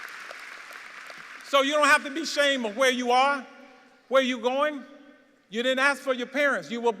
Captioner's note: applause